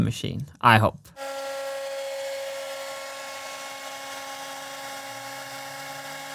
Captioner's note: CNC machine whirring